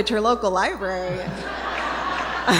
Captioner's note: laughter